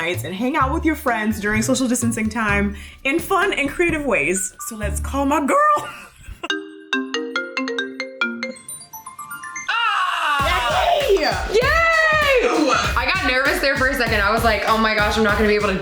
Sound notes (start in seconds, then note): 6.5 loud FaceTime ringtone; 9.7 screams loudly